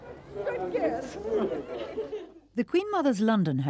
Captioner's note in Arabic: ضحك